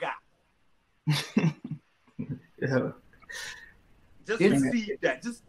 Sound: laughs

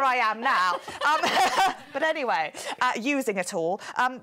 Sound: chuckling

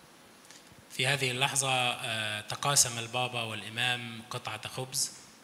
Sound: speaks in foreign language

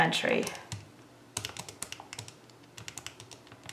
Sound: typing sounds

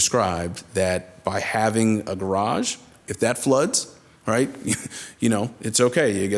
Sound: chuckles

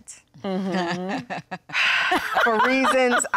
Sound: sighs

